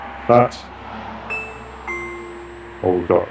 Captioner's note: ringtone ringing